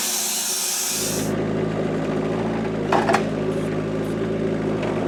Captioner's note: vehicle rumbling